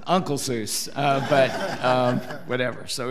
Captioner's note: audience laughing